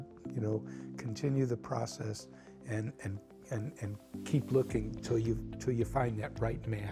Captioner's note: stammers